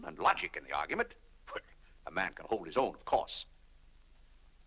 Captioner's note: laughs